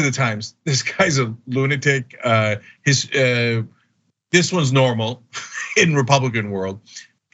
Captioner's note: laugh